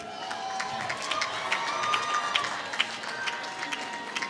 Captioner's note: applause